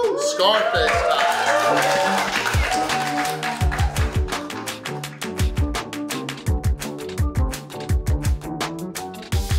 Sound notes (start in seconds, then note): 0.0 cheering & Clapping